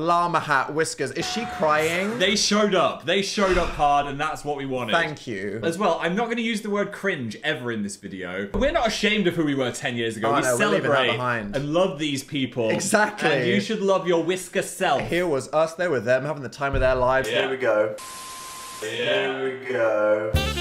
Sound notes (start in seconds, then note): 18.0 screen beeping; 20.3 smooth upbeat music